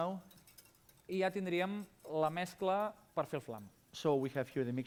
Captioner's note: non-english speech